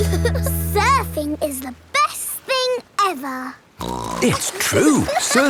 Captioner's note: giggle; snorts